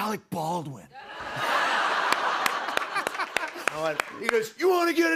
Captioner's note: laughter